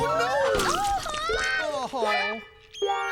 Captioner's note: splat!